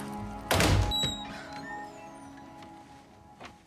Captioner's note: sound of door closing